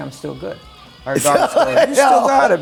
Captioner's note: laughs